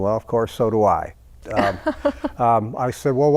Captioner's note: laughing